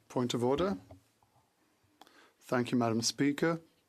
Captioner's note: speaking French